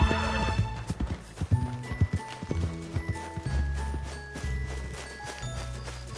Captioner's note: pitter patter of little feet